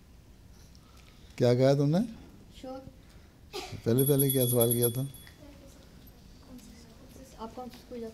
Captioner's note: bell rings